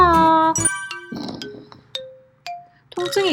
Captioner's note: snoring